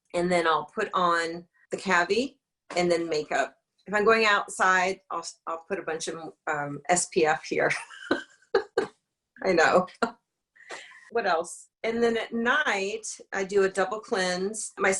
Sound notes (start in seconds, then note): 8.6 laughs